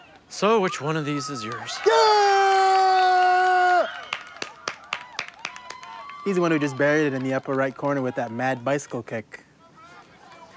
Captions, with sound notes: So, which one of these is yours? (cheers) - He's the one who just buried it in the upper right corner with that mad bicycle kick.